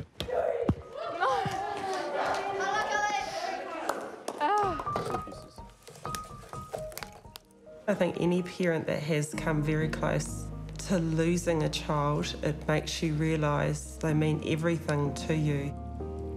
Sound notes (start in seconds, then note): 0.8 children cheer; 1.0 laughs; 4.5 sighs